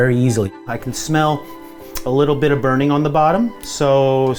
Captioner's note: sniffs